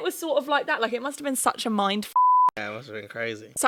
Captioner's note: beep